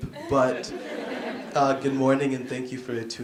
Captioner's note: laughing